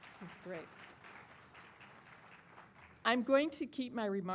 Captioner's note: applause